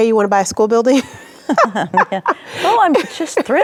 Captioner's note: both laughing